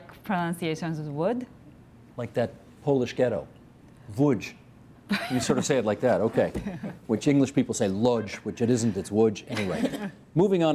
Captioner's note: laughter